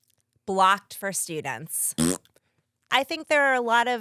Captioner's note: blows raspberry